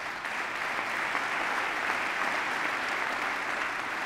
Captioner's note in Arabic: تصفيق